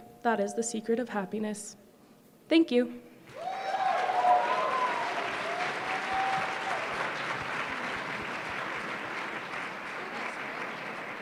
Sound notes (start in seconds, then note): 3.3 applause